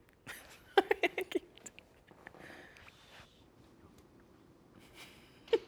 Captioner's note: laughs